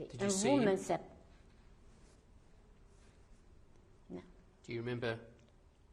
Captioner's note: pauses for 3 seconds